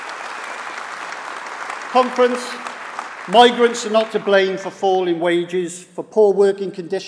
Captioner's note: applause